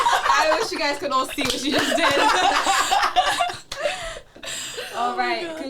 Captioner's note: all laugh